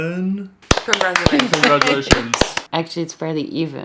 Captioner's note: applause